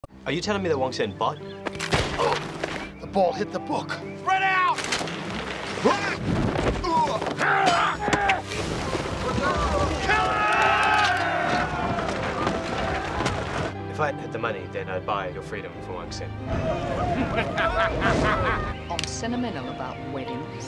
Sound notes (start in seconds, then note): 1.9 gunshot; 5.7 groan; 6.3 thud; 11.4 logs tumbling; 17.0 laughter